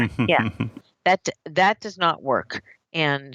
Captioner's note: laughs